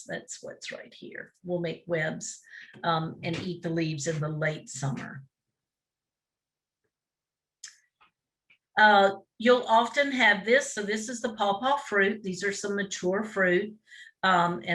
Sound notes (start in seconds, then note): none